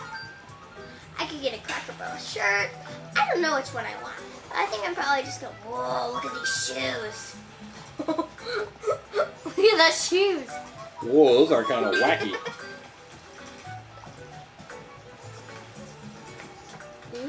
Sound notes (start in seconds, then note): 7.9 chuckles; 14.4 lighthearted music